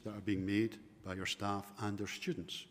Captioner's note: none